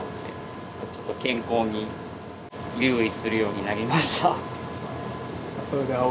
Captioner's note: laughs